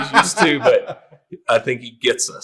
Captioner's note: all laughing